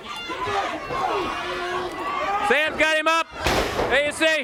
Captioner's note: crowd cheering